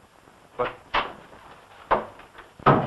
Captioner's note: door opens and shuts